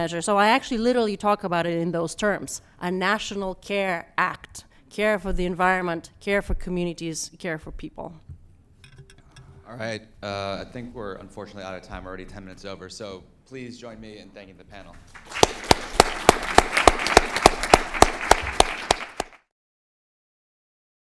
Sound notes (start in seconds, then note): 14.9 applause